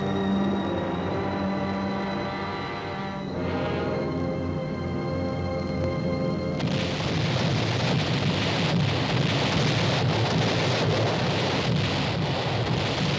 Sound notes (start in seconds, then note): 6.6 mortar rounds booming